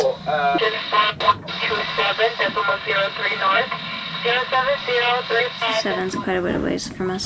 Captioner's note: Coast Guard calling signals on radio indistinctly